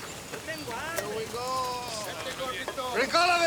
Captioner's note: gang members chatter